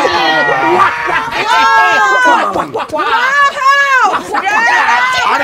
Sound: Wario and Waluigi shouting

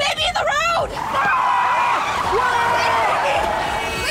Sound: screaming

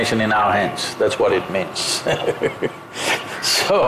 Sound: laughs

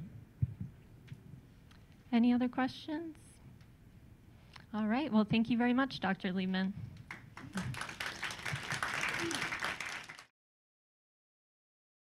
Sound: applause

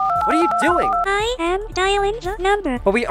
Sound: TTS voice

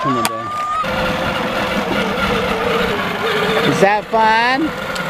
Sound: motorcycle noise

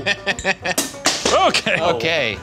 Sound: laughing; baton banging

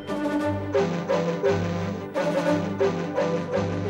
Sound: tooting

